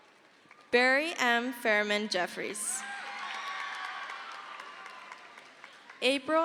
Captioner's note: crowd cheers